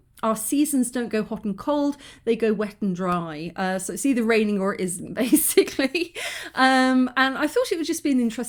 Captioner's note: laughing